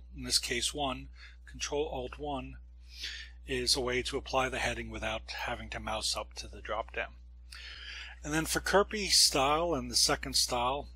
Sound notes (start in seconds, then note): 7.5 breath